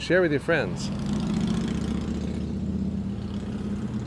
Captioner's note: motorcycle revving